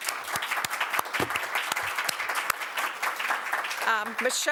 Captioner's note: audience clapping